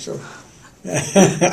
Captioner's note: laughter